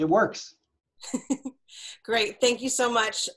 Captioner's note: laughs